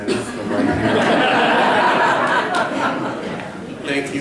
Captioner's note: laughter